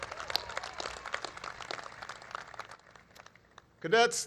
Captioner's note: applause